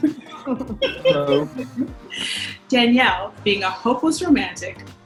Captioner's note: host laughing